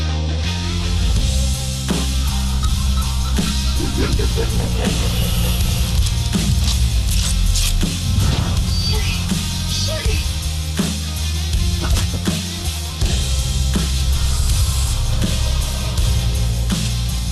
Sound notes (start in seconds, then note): 0.9 dramatic upbeat music continues; 4.0 ghost chuckling; 4.0 guns reloading; 12.9 dramatic upbeat music continues